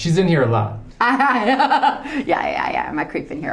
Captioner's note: Bryce laughs